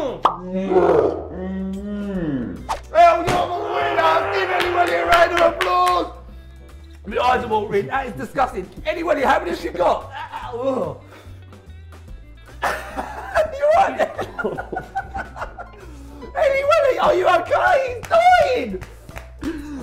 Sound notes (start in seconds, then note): 10.0 puke noise; 12.6 laughs